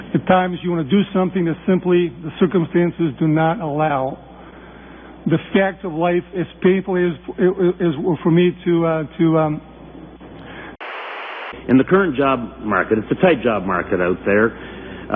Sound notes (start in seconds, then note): 10.8 static